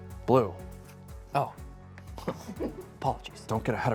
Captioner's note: snickers